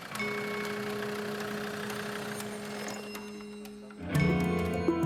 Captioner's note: engine turns off; suspenseful music